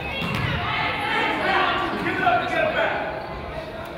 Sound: coaches yell

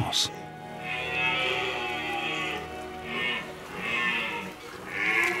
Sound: red deer roars

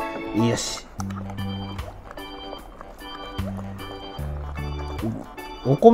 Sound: laughs

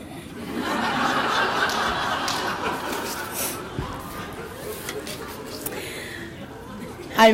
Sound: audience laughter

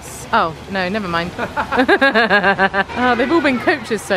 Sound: both laugh

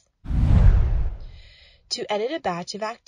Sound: whooshing

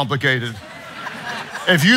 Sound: audience laughing

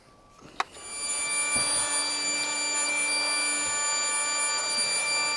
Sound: air cleaner humming

